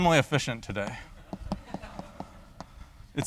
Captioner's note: laughter